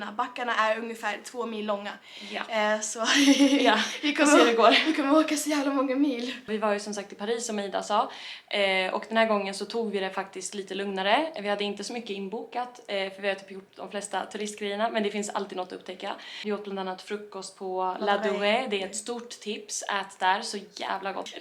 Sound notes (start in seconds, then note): 3.0 laughing